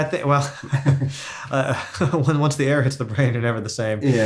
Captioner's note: laughs